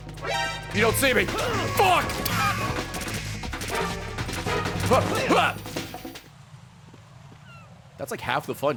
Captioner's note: laughs